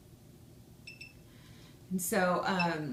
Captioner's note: device beeps